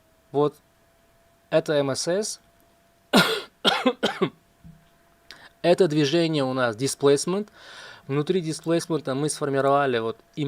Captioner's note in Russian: кашель